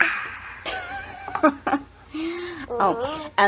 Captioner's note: laughs